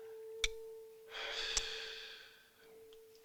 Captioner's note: sighs